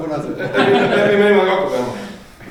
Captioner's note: laughing